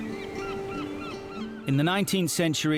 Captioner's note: birds chirping; gentle music